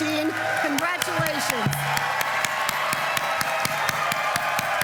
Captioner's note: applause